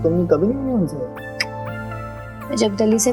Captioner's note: clicking tongue